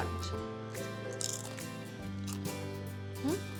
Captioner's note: crunches